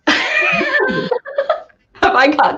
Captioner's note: laughing